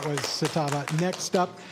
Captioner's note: applause